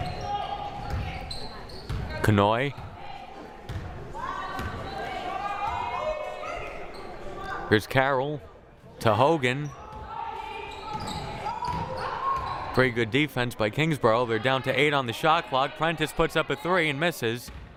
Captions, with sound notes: Kanhoye. (crowd cheering) Here's Carroll, to Hogan. Pretty good defense by Kingsborough, they're down to right on the shot clock. Prentice puts up a three and misses.